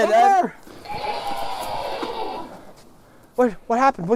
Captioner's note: banshee screeches